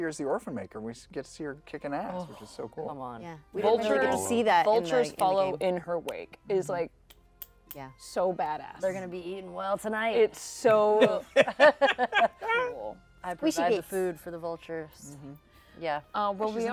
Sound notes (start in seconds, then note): 11.0 laugh